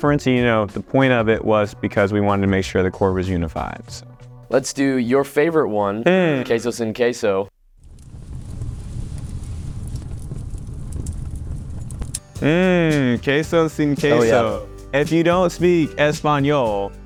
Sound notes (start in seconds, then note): 7.7 fire sound effect